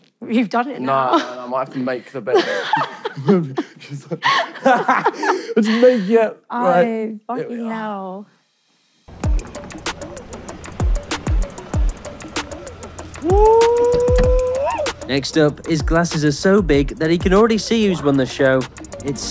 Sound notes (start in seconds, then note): 4.7 laughing; 9.1 dramatic music